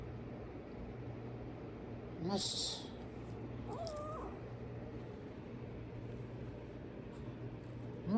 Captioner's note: growls